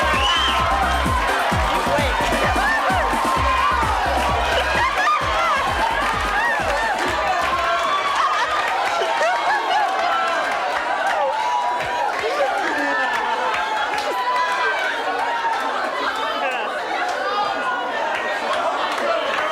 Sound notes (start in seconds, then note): 1.0 laughs; 9.1 audience chatters